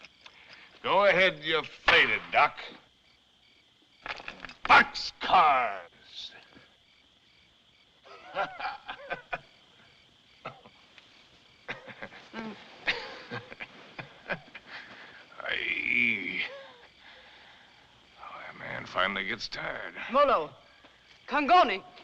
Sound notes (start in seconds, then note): 8.0 laughs; 11.6 coughs, Laughs; 15.3 groans